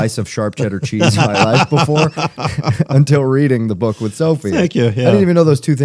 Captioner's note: laughter